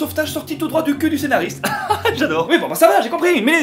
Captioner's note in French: rire agacé